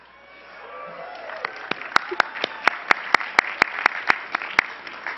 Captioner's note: cheering and clapping